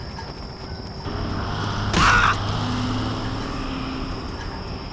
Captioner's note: BLU Scout Cries in Pain